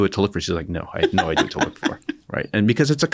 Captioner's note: laughter